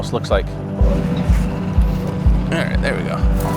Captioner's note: motor boat whirring